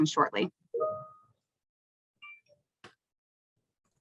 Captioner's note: chimes